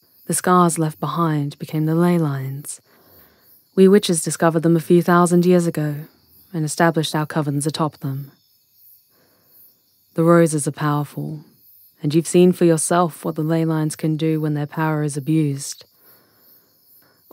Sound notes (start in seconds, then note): none